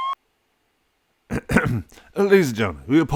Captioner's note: clears throat